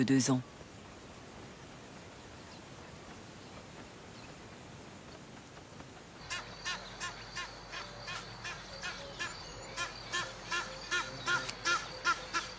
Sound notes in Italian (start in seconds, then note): 6.2 versi di animali